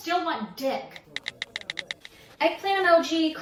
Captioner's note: typing sounds